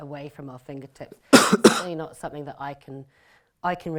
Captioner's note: coughs